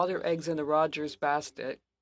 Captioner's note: speaking French